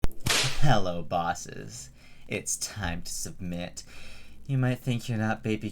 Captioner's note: whip Crack